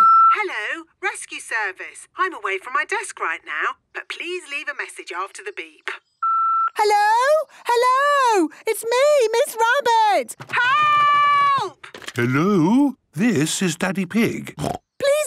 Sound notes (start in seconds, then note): 0.1 answering machine; 6.2 beep